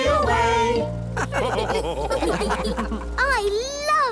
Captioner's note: all laugh